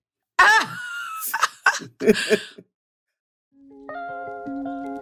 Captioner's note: laughter; r&b music